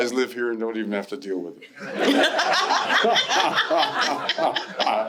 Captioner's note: laughter